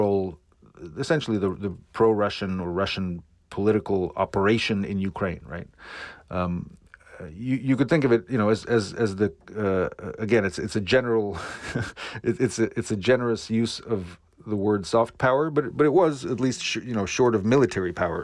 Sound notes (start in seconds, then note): 11.3 laughter